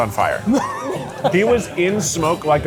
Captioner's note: laughs